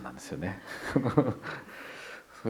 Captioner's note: laughs